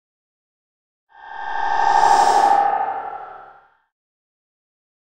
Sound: sound of horror swish

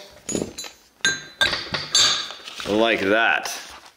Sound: heavy metal clanging

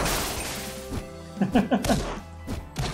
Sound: laughs

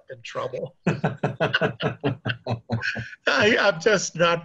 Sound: both laughing

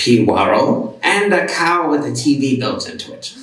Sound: none

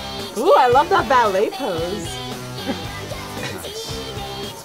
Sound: laughs

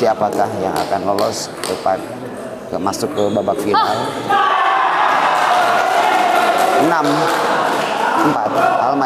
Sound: applause

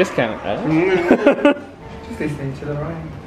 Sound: chuckling

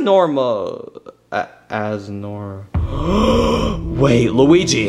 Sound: gasping

